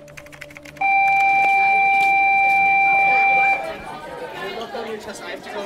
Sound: school alarm sounding

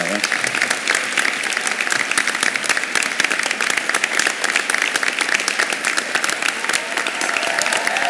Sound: applause

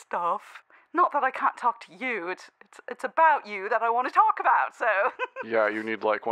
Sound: giggles

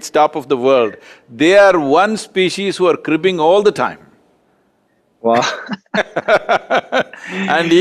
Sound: both laugh

